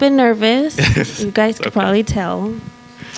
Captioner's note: laughs